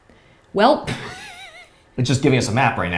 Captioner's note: chuckles